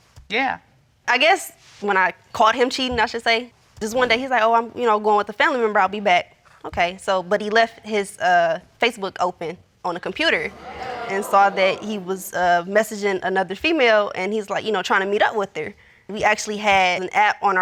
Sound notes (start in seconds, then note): 10.4 audience exclaims